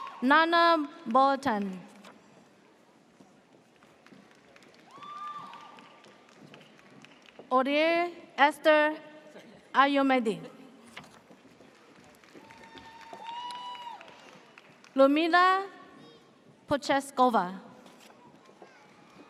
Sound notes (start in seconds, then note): 0.0 audience cheers; 4.8 audience cheers; 12.4 audience cheers